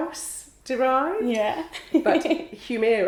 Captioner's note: laughs